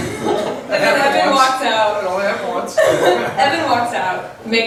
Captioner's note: voiceover